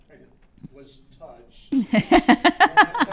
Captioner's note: laughs